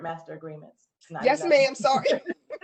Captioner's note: laughter